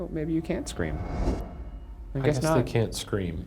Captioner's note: light whooshes